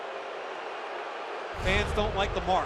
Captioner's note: crowd boos